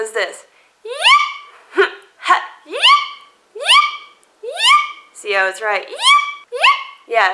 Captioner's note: high pitched yep